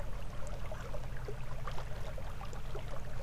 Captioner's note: water sounds